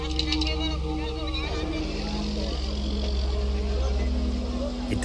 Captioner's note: crowd murmer